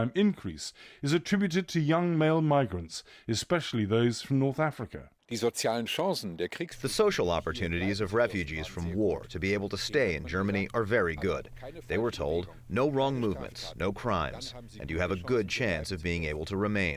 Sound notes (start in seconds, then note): 6.3 through translator